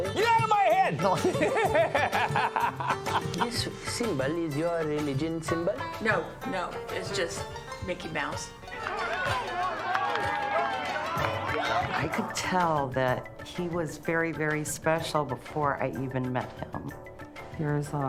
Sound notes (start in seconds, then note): 1.1 both Laugh; 1.1 两人都笑; 8.6 喊叫声、欢呼声、模糊不清